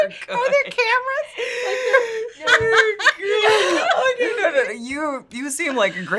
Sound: laughing

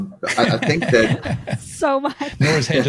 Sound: everyone laughing

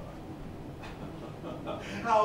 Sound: Mr. Hughes laughs

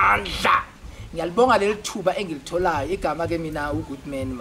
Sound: in the Zulu Language, SPEAKING

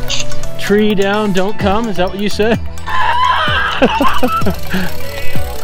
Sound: laughing

